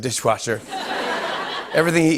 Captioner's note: laughter